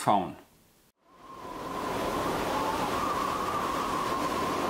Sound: wind whooshing

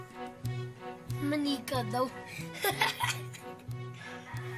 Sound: laughs

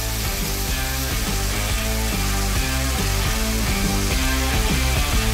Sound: drill grinding

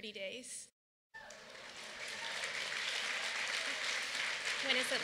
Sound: applause

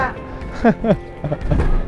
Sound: continues laughing

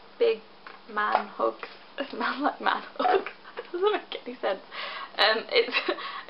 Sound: laughing

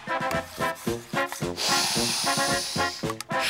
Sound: sniffing; laughing

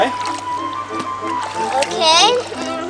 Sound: water splashing

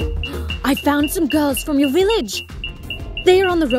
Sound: app beeping; gasps

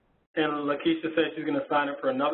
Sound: voiceover

